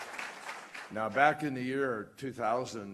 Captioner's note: applause